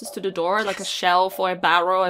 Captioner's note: whispering